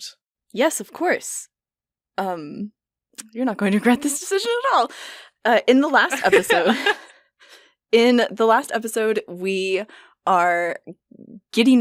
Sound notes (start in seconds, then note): 6.0 laughter